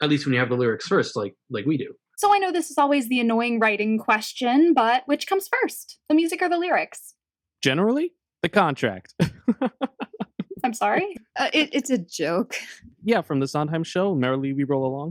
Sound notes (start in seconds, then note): 9.2 laughs